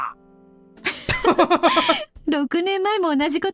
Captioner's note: chuckles